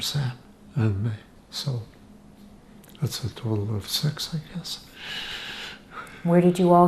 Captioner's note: laughing